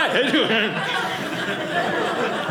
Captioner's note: audience laughing